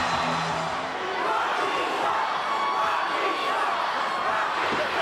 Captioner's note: audience chanting